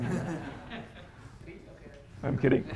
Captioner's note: laughter